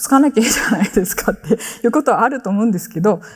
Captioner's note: chuckles